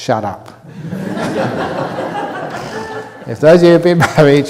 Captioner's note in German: Gelächter aus dem Publikum